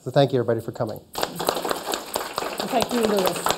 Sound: applause

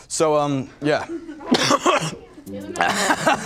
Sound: coughing

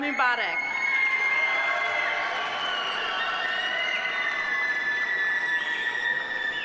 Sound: audience applauding; audience cheering

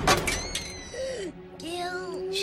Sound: gasp

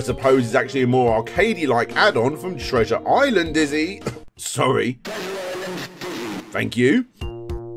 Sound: cough

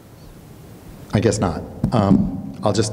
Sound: thumps mic

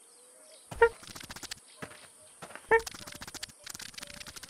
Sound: scratching

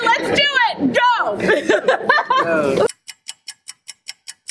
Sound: laughing; clock ticking

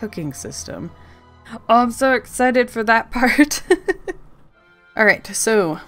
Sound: laughs

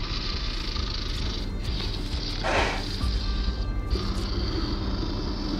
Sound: Luther snarling

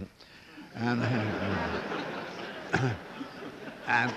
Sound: laughter

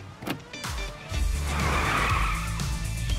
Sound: tires screeching

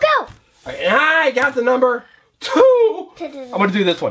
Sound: voiceover

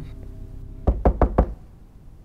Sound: knocking on door

